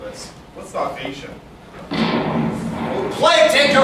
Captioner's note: musket-fire